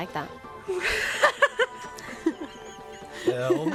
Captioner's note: laughs